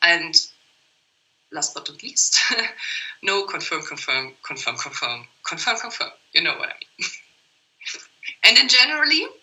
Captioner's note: laught